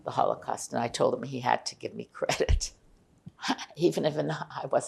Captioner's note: laughing